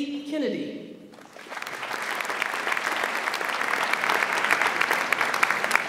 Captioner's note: audience applauds